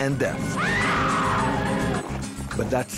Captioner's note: screaming